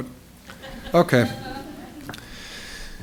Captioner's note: laughter